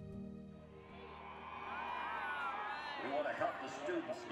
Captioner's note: cheering